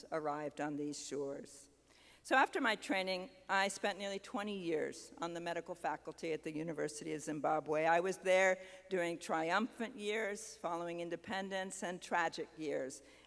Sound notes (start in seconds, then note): none